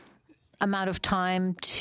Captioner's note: speaking French